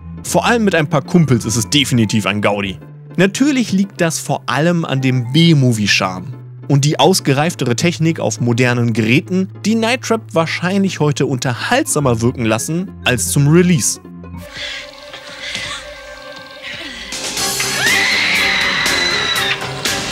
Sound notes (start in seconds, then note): 16.6 screaming